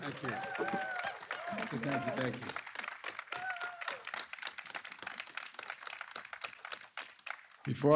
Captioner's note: applause